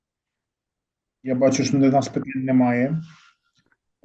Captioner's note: non-english speech